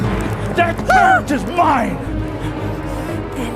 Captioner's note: yelps